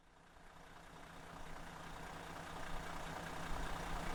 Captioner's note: engine idling